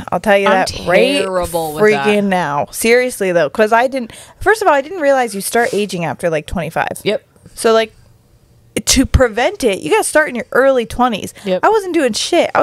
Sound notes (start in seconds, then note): none